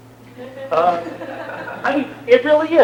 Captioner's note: laughter